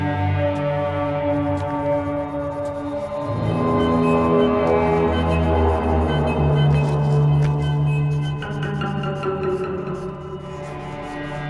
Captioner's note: humming